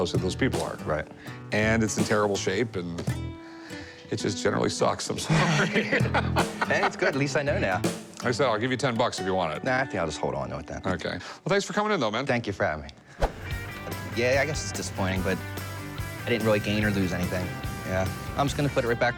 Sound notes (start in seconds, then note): 5.2 both laughing